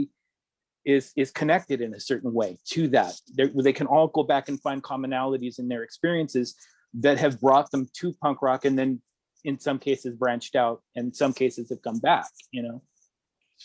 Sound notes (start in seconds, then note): none